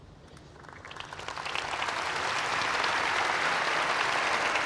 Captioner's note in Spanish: Aplausos